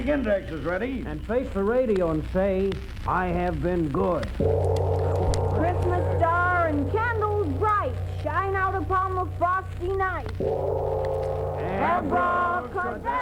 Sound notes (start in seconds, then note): 4.4 gong rings; 10.3 gong rings